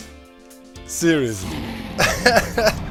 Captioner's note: laughs